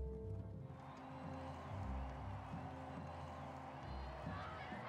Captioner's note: crowd cheering